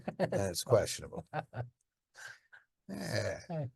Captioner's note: laughing